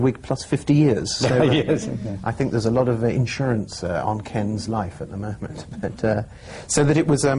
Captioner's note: laughter